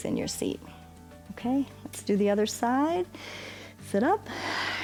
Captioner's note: inhales